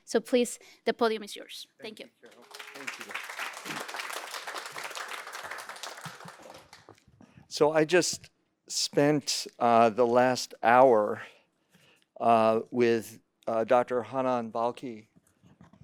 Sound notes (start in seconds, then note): 2.2 applause